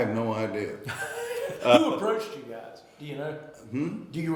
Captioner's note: laughing